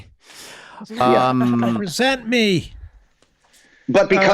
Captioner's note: laughing